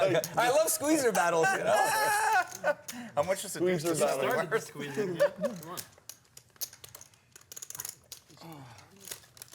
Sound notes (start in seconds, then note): 1.8 laughs